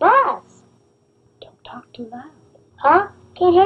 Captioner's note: whispering